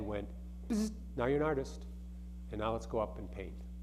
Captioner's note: buzzing